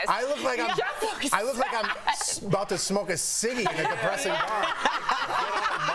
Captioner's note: laughter